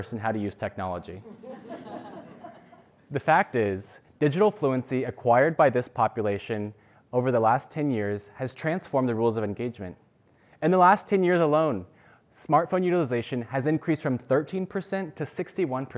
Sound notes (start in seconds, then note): 1.2 laugh